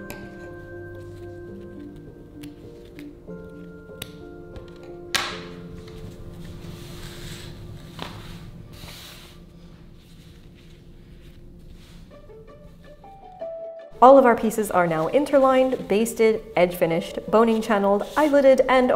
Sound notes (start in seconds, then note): 5.2 scissors clattering; 5.5 fabric rustling